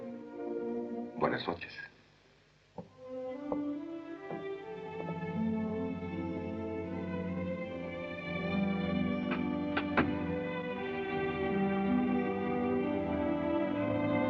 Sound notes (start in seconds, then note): 3.2 waltz Continues; 7.3 door Closes